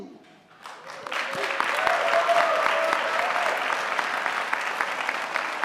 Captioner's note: audience applauding